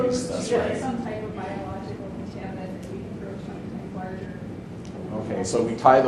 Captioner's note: faintly speaking